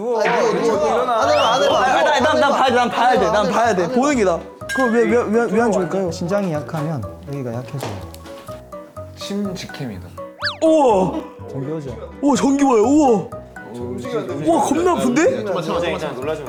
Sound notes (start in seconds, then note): 2.1 voice gets louder the more nervous he gets; 4.6 stuttering